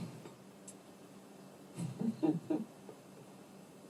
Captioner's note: laughter